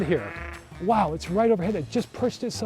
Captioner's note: great blue heron squawking